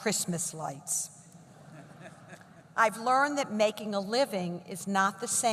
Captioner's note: laughter